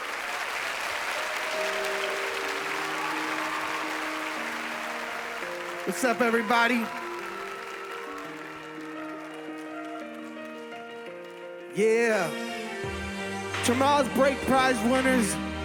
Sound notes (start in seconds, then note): 0.1 audience applauds; 3.8 upbeat music; 7.7 audience applauds